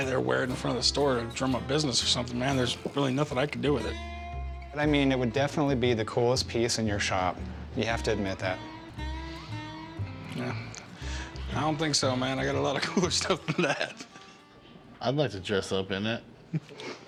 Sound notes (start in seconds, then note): 12.6 laughs